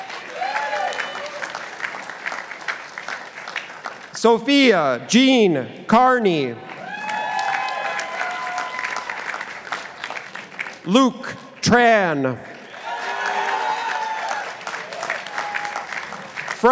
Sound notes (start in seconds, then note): 0.0 participants applauding